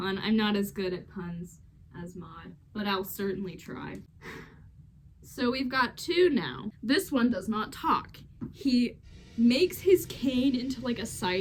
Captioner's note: sigh